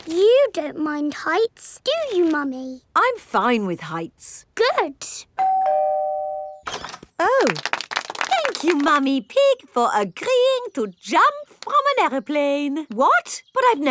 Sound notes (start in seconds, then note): 5.4 doorbell ringing; 7.4 crowd applauding